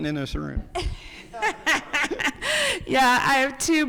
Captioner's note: people laughing